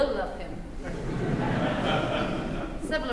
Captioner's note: laughter